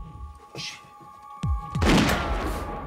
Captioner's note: gun shot